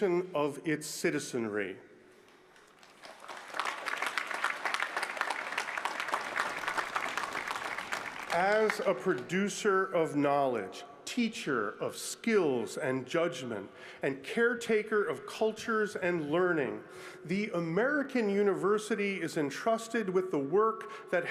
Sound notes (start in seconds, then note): 5.9 applause